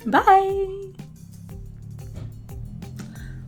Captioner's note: faint squeaky door sounds in the background